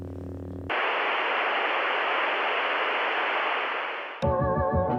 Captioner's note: TV static buzzing; upbeat music